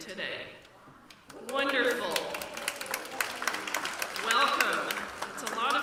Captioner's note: applause